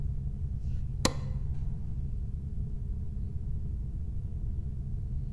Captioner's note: switch clicking